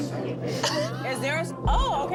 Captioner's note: laughs